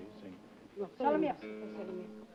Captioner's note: speaking italian; playing guitar